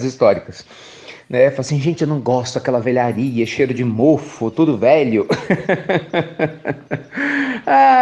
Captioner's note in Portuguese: Risos